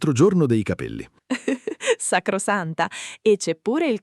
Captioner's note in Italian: Haha